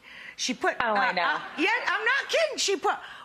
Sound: audience faintly laughs

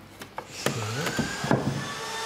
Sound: drilling noises

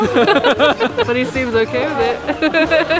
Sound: both laugh

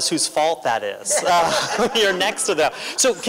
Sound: laughter

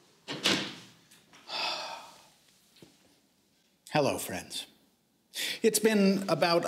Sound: sigh

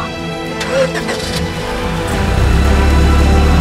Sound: engine starts

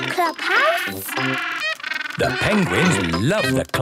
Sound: honking

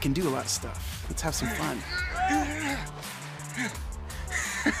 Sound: grunts; laughs

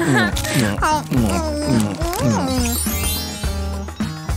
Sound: making irritated sounds; sighs; grumbles

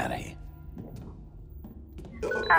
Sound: footsteps

